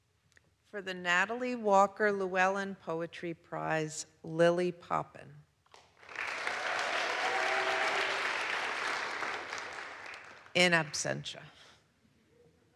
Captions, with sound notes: For the Natalie Walker Llewellyn Poetry Prize, Lily Poppen. (audience applauds) In absentia.